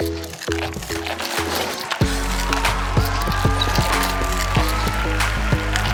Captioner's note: panda noises; applause